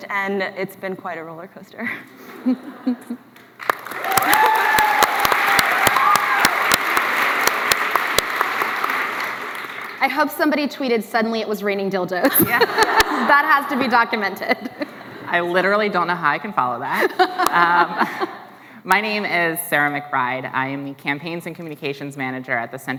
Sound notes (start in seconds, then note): 3.4 applause; 12.3 laughs